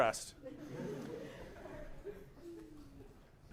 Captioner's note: laughter